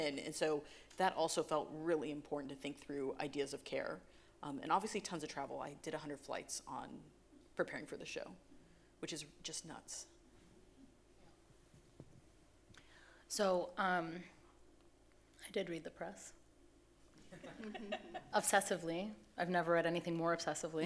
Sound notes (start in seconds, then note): 17.3 audience laughing